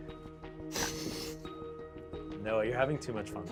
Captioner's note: laughs